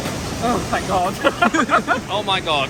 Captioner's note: laughing